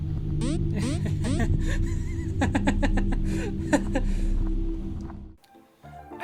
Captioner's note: distressed laughter